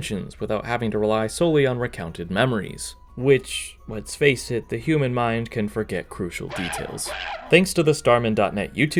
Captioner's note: Donkey Kong screeching